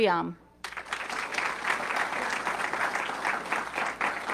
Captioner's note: audience clapping